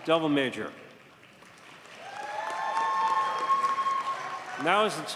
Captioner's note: audience cheers and applauds